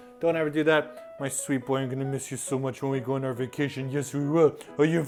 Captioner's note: using baby voice